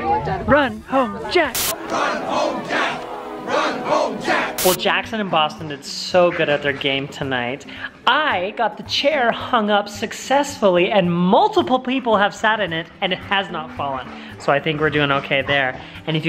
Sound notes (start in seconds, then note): 0.0 crowd